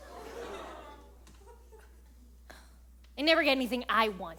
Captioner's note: audience awws